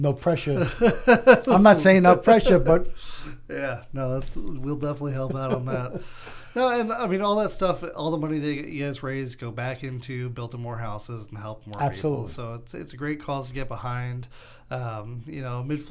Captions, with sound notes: - And you're just sending out, and I know one's probably gonna be already taken. No pressure. (laughing) I'm not saying no pressure, but. - Yeah, no, we'll definitely help out on that. No, and I mean, all that stuff, all the money that you guys raised go back into building more houses and help more people.